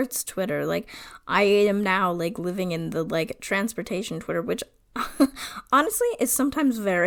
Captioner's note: laughs